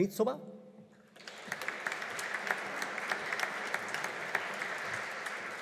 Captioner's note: audience applauding